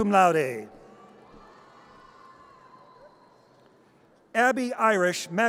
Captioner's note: audience cheers